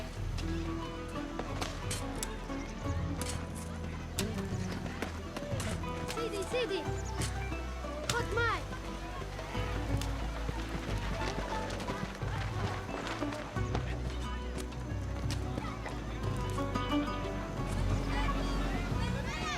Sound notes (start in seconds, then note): 6.0 speaking in arabic